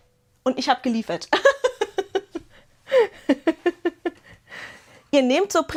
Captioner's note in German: Gelächter